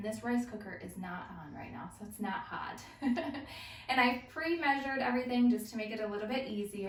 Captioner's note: laughter